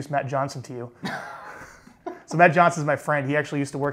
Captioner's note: laughs